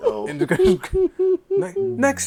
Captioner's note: laughter